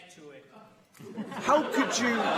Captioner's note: laughter